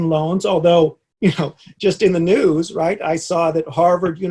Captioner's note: chuckles